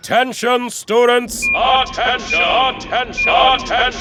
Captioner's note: echoing